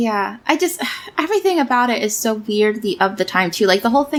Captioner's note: sighs